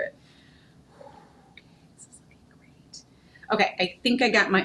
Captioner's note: sighing